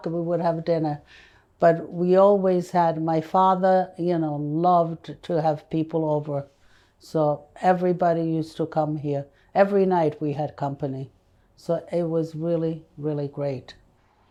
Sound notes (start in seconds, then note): none